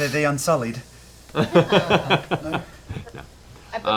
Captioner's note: laughs